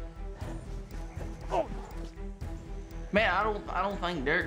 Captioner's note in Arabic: خرخرة